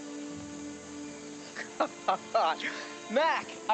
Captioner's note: laughing